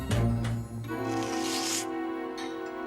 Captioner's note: slurping sound